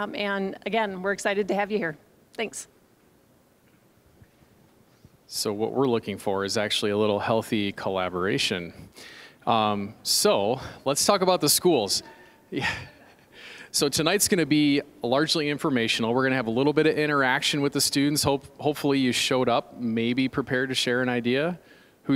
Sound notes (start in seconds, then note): 12.6 chuckling